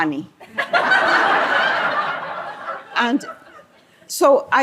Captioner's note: laughter